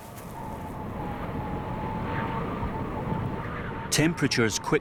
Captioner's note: wind howls